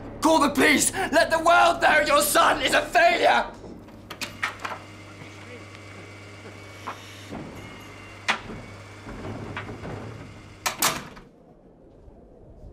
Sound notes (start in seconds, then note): 4.3 door opens; 10.4 door closes